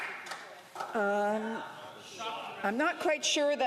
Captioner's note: some Applause